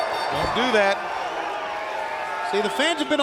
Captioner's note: bell ringing